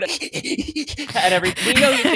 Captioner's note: breathes heavily